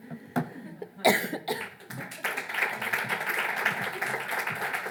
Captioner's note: audience clapping